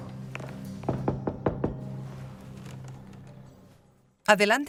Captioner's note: door knocking